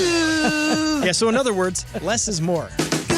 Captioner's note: laughter